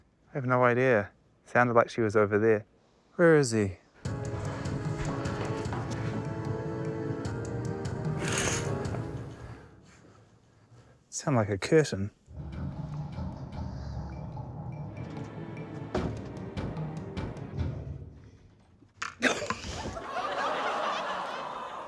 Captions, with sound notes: I have no idea. It sounded like she was over there. Where is he? (CURTAIN HOOKS RATTLE) Sounded like a curtain. (ENERGETIC MUSIC PLAYS) (MUSIC STOPS) - (CHUCKLES)